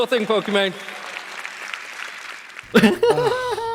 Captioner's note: weak applause